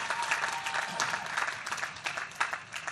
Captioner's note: applause